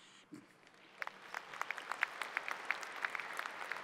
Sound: applause

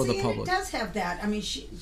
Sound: voiceover

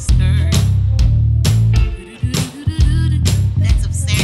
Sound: ooh

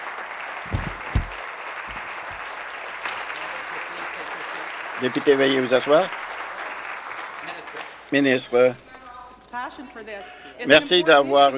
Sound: applause

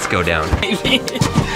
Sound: laughs

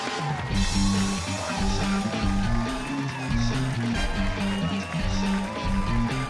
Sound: cheers and applause

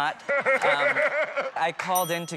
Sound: laughter

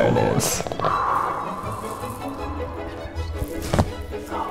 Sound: exhales

